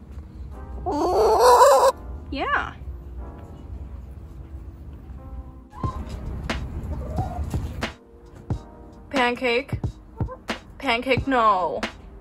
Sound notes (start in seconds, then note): 0.9 somehow louder chicken noise; 6.9 chicken noise; 6.9 quiet chicken noises